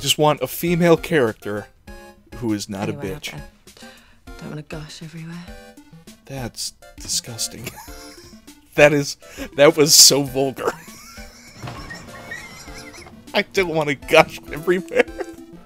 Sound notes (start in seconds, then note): 8.2 wheeze; 10.7 wheezing laughter